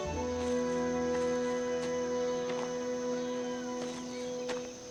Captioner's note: insects chittering